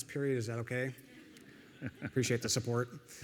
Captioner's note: audience laughing